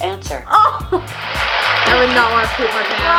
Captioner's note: applause